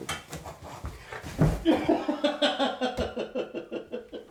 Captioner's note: laughs